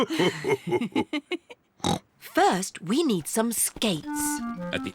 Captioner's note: laughs; laughs and snorts